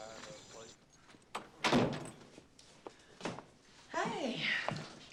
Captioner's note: people chattering in distance